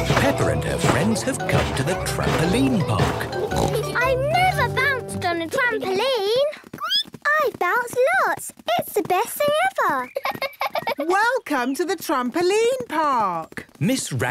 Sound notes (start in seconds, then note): 7.1 squeaks; 10.0 giggles